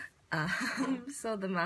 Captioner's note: laughs